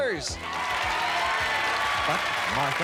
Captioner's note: cheers and applause